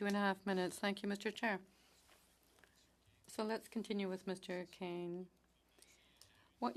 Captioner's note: speaking French